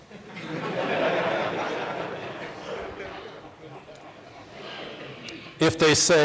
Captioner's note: laughter